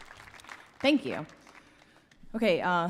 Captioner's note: applause